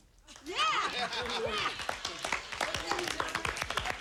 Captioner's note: cheers and applause